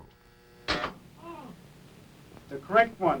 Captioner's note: buzzes; subject grunts